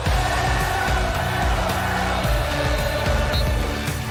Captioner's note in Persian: صدای تشویق